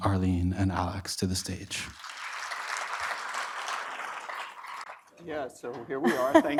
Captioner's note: audience applauding